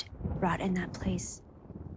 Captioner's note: none